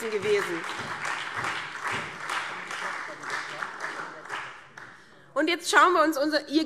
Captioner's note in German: Beifall SPD und Freie Demokraten